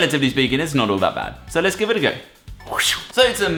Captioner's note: whoosh